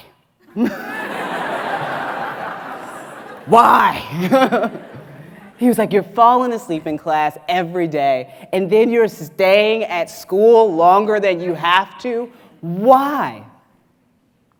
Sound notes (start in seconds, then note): 0.5 audience laughs; 4.3 laughs